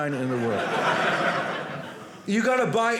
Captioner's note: audience laughing